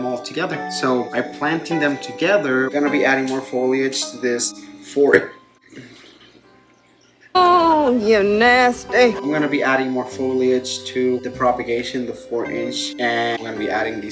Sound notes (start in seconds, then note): 5.6 burps